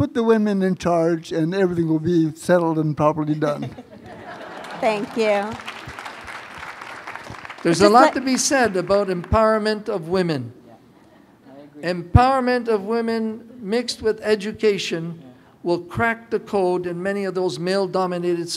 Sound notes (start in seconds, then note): 3.4 laughter; 6.0 applause